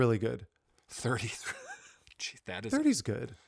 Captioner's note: laughing